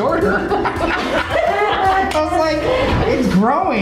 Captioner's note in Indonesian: Ketawa